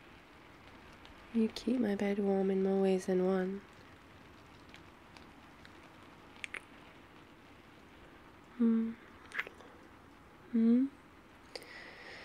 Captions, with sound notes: you keep my bed warm in more ways than one *kiss* mm *kiss* mm?